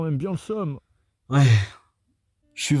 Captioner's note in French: sigh